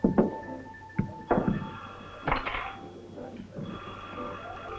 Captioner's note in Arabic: يرن الهاتف